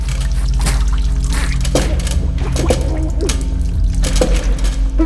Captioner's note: muted struggle